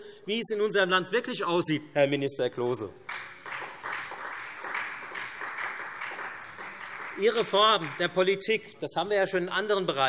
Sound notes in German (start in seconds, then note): 3.0 Beifall Freie Demokraten und vereinzelt SPD